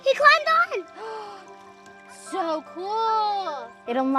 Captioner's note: gasping